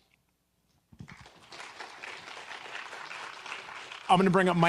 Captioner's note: audience clapping